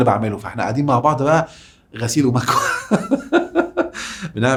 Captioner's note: laughs!